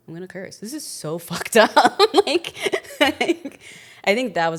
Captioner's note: laughs